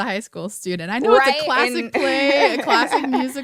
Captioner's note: laughter